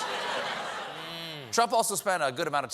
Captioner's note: laughter